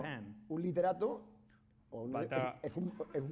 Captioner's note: speaking spanish